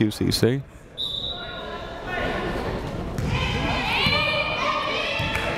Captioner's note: whistle blaring